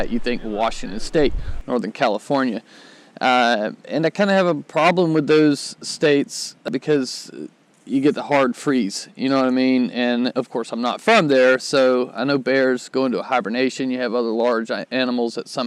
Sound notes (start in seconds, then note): none